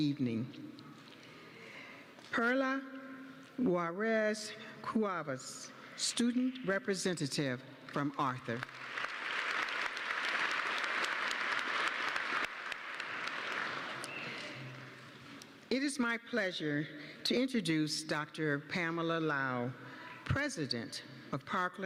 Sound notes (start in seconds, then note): 8.5 applause